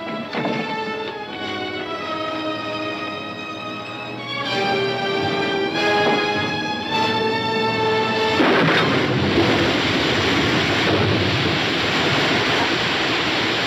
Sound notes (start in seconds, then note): 8.1 water roaring